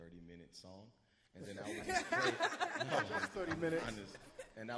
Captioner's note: all laugh